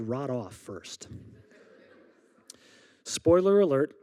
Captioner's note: audience laughing